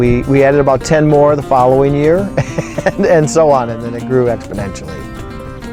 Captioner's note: chuckling